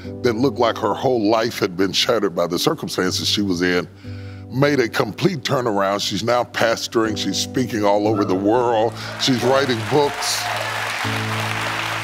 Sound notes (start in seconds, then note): 8.6 audience clapping